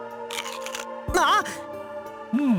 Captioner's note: gasp